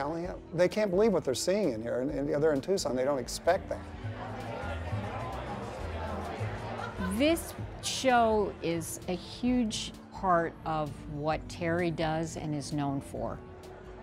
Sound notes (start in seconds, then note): 2.9 people chattering